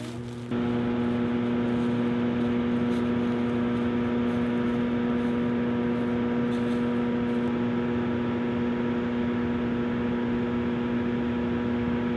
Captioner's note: loud humming